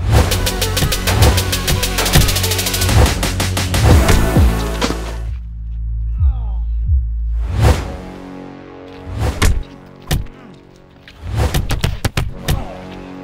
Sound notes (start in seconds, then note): 0.0 music speeds up; 4.6 Lee groaning; 9.4 punches thudding